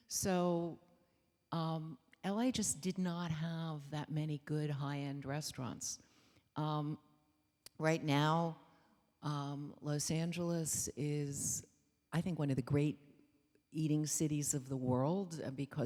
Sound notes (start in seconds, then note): none